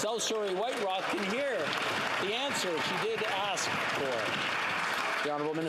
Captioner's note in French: voix de l'interprète